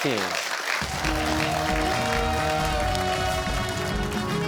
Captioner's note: cheers and applause